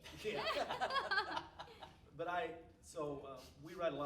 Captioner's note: all laughing